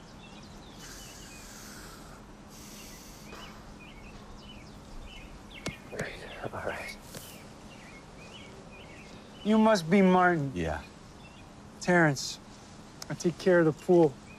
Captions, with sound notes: (Terrence sighing) All right, all right. - You must be Martin. - Yeah. - Terrance. I take care of the pool.